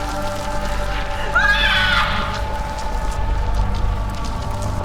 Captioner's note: Luna screaming